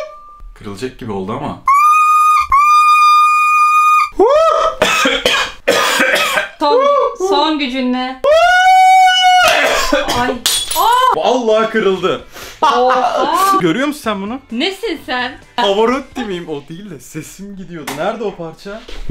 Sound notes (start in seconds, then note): 0.0 shouting sound; 8.2 shouting sound; 9.5 breaking sound